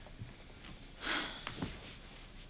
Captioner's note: sighing deeply